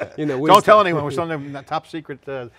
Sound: laughing

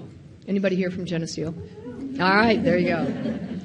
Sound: participant cheering

